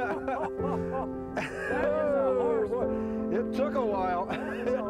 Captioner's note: laughter